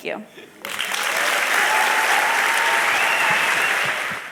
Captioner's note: cheers and applause